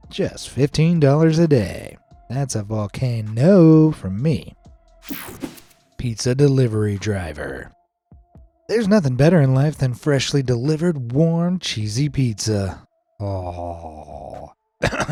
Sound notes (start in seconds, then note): 5.0 screen whooshing; 13.7 drooling